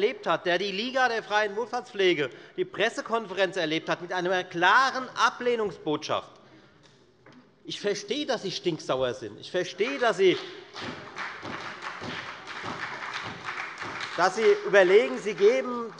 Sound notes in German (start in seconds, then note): 9.7 Beifall bei der FDP und bei Abgeordneten der SPD